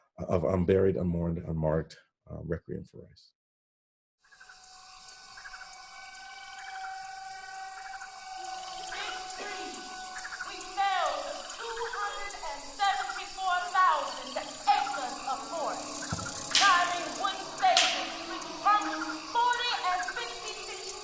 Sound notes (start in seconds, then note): 4.2 ambient nature sounds; 4.2 eerie orchestral music